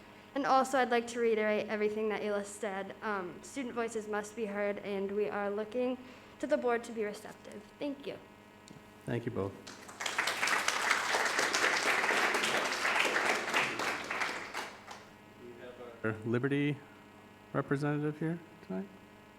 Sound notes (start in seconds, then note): 9.6 audience applauding